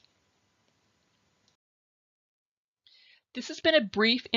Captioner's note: silence